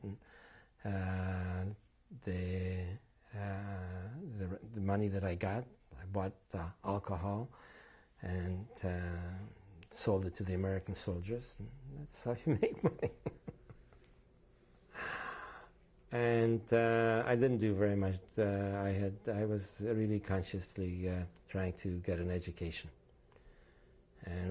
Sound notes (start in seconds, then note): 12.4 laughs